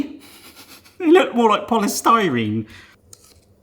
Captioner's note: laughs